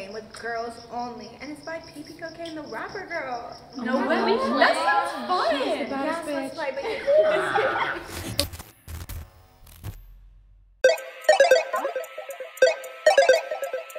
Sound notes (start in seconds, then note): 3.8 girls exclaiming; 10.8 video game music plays